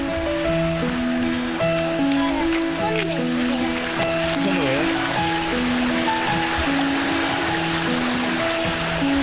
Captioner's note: applause